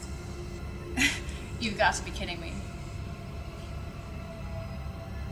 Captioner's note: nervously laughs